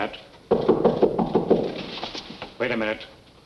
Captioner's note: knocking